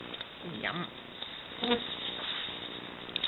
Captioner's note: mosquito buzzes